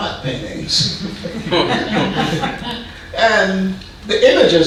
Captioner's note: audience laughing